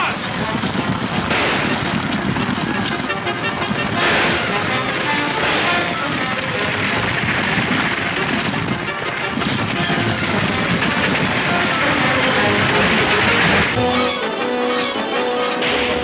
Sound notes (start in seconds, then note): 0.2 exciting orchestra music; 0.2 guns firing; 11.3 clattering; 13.8 dramatic orchestral music